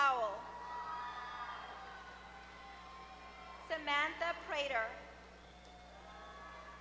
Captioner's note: applause